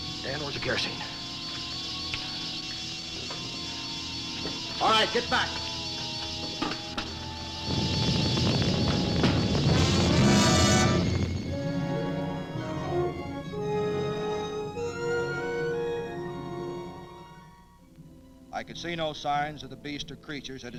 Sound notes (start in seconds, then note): 7.5 flames whooshing; 7.6 menacing orchestral accent; 12.3 pleasant orchestral music